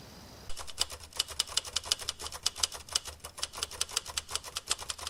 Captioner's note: typewriter clicking